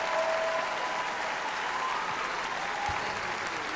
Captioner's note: applause